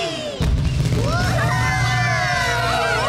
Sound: explosions; all Cheering

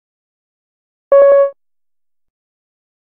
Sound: sound of tone alert

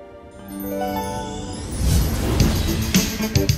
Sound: chiming; upbeat music

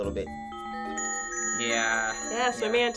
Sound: bells tinkling

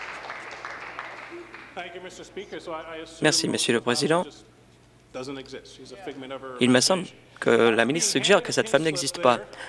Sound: some Applause

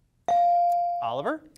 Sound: device dings

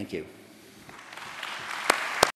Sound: applause

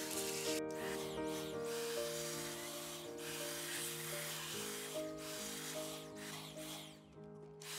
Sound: calming music; vacuum humming; calming music

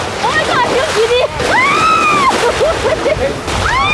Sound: screams

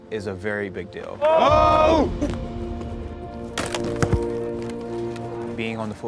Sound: cheering

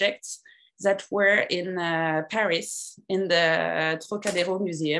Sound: french

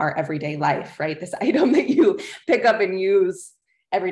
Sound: laughter

